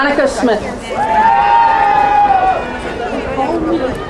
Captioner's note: crowd cheering